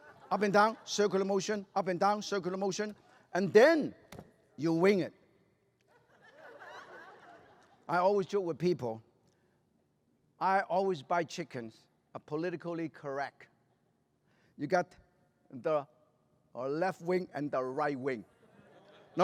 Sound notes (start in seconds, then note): 5.8 laughter